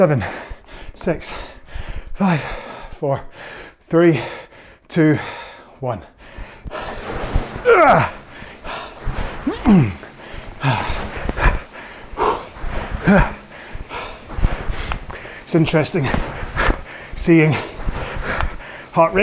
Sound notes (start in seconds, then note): 7.6 grunting; 11.5 breathing heavily